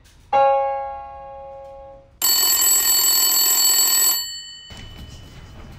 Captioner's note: phone rings